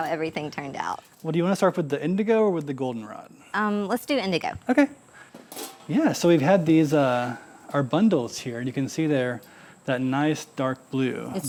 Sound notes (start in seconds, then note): 5.4 lid scraping